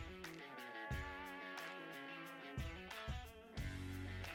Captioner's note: moose call